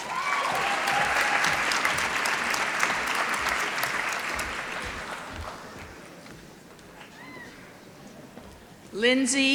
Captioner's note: applause